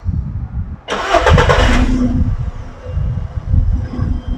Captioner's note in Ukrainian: звук: завівся двигун автомобіля